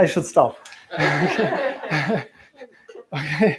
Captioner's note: laughter